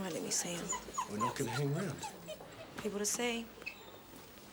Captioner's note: wolf whining